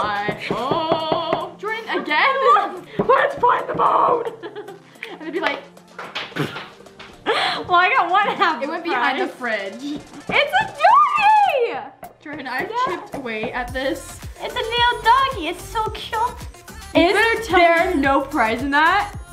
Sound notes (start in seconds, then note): 4.2 toy pops